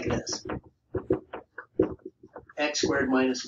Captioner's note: marker knocking